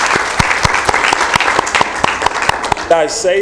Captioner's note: applause